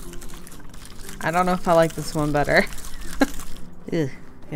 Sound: laughs

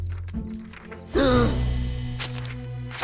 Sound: gasping

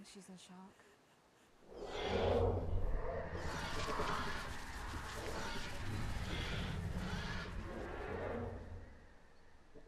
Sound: dinosaur roar

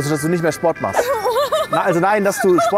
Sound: laughs

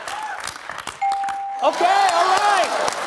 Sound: bell dings

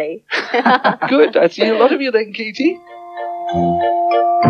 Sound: all Laugh

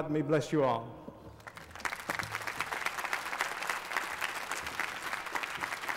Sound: applause

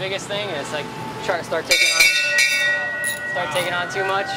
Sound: bell clang

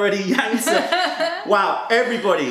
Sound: laughter

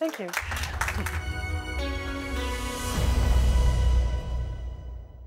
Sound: applause

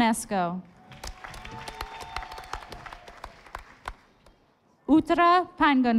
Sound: audience applauding

